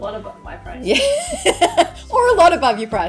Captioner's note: laughing